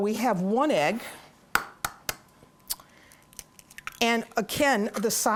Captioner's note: egg cracking